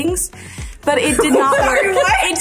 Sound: group laughs; laughs

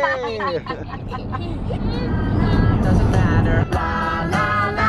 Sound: laugh

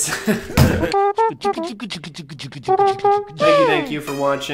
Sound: beatboxing

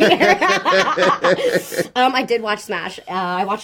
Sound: they laugh

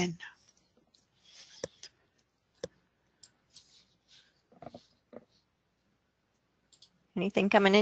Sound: silence

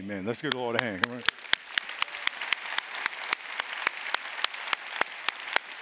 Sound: applause

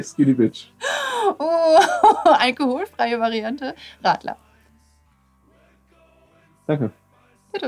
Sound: laughs

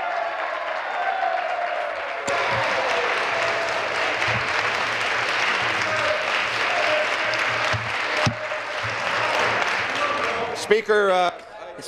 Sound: applause

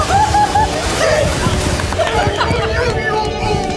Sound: all cheering

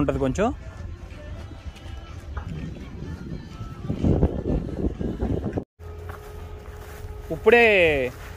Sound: wind gushing

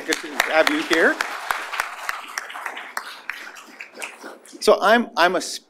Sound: applause

